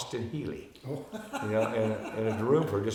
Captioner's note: laughing